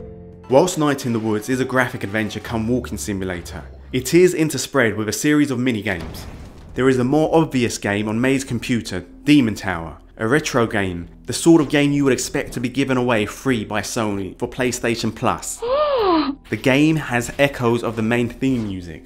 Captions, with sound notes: Whilst the game is essence a graphic adventure come waking simulator, it is interspersed with a series of mini-games There is a more obvious game available on Mae’s computer Demon Tower. A retro-game – the sort of game you expect to be given away free by Sony for PlayStation Plus! [shocked female gasp SFX] The game has echoes of the main theme music.